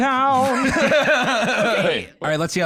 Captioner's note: both laugh